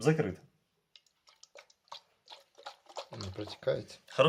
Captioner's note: the noise of the water hanging inside the mug